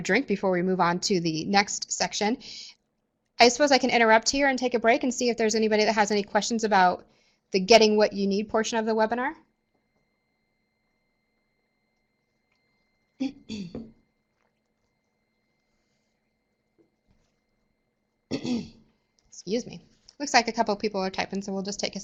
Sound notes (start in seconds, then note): 10.4 no sound - waiting for questions